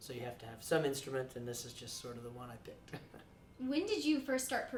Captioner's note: chuckles